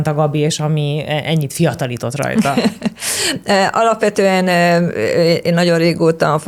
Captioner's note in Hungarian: nevetés